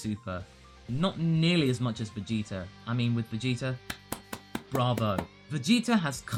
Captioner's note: claps